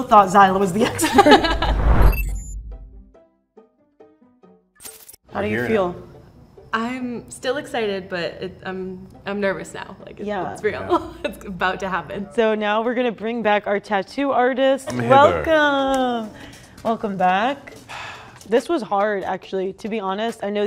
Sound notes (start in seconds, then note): 0.8 people laughing; 11.7 laughing